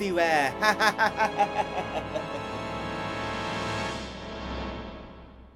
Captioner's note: evil laughing